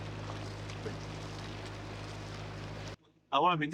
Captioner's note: sound of a train passing